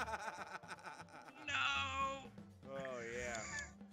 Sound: laugh

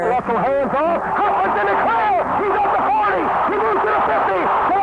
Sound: crowd and announcer cheer

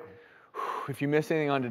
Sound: exhales

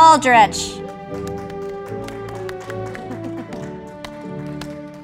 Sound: audience applauding

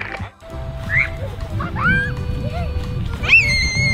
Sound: laughs

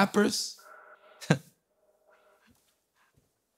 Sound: laughs

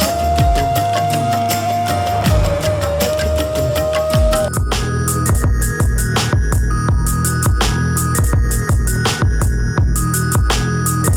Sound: clap

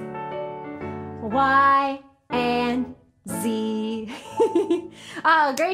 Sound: giggles

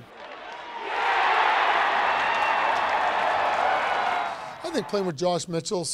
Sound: cheering

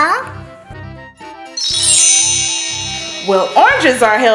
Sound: wand chimes

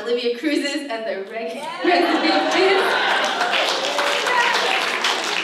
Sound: audience cheers

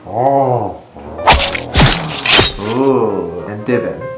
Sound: slicing noises

